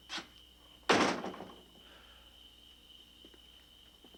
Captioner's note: door slamming